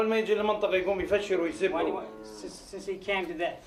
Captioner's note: Iraqi man speaking in Arabic